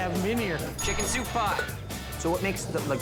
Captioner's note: bell dings